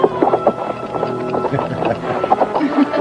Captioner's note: chuckling